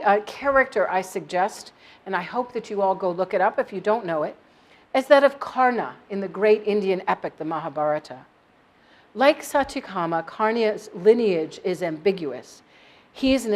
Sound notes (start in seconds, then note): none